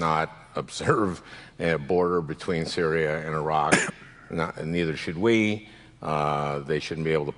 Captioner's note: coughs